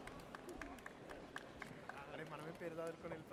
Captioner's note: audience applauds